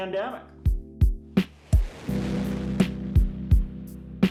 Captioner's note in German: Düsenstrahl zischt